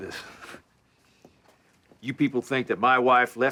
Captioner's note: scoffs